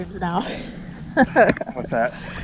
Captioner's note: laughs